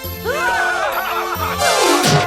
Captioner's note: cheering; gasps